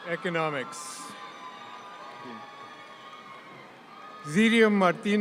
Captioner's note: audience cheering